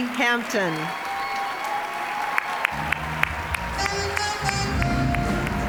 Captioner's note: cheering, applause; smooth jazz music; applause